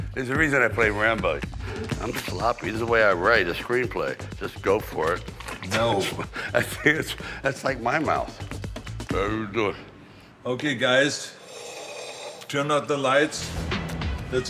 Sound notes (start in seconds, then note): 5.5 Sylvester laughing; 9.5 Sylvester mumbling